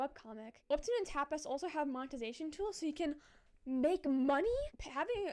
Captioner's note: inaudible gasp